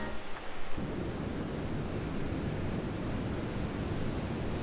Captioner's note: water rumbling